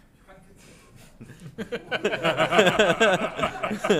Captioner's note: laughter